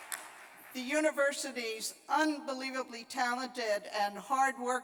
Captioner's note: applause